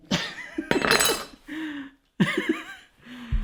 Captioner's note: laughing